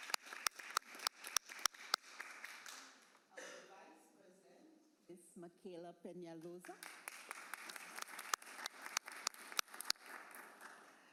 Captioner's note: applause